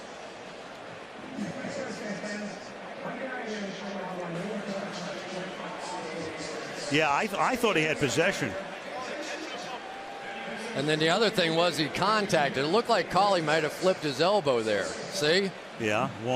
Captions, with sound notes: [pa announcement] Yeah, I thought he had possession. And then the other thing was he contacted. It looked like Cooley might have flipped his elbow there. See?